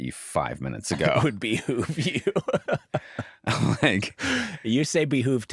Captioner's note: laughs